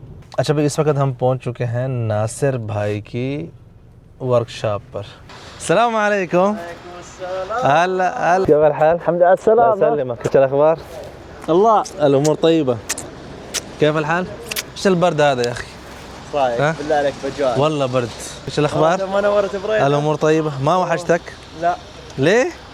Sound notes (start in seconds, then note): 7.3 Arabic